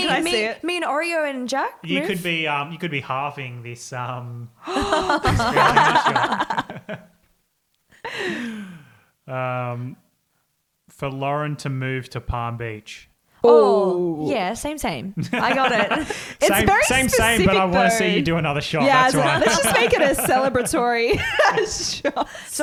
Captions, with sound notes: - Me and Oreo and Jack move? - You could be halfing this spirulina shot. (both laugh) For Lauren to move to Palm Beach. - Oh yeah, same, same. I got it. - Same, same, but I wanna see you do another shot. - Yeah, let's just make it a celebratory shot.